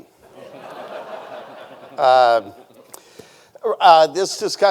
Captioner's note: audience laughing